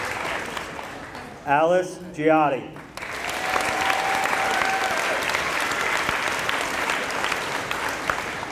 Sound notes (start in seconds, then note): 0.0 applause; 2.7 applause